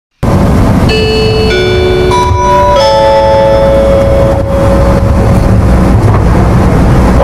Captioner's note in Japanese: 車内チャイム